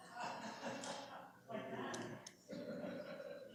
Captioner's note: background chatter